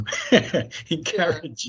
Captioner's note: chuckles